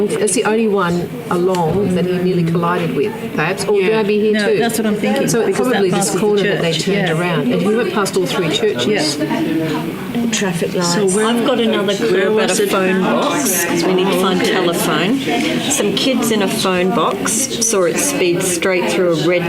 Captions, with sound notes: That's the only one along that he nearly collided with. Perhaps or could he be there too? That's what I'm thinking. So it's probably at this corner that they turned around. And he went past all three churches. Yes. [participant chatter] Traffic lights. I've got another clue. [participant chatter] We need to find telephone. Some kids in a phone box saw it speed straight through a red light.